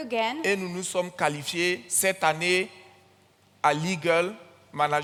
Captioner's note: continues in French